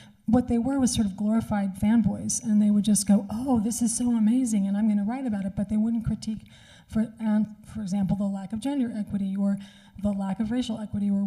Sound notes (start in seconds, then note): none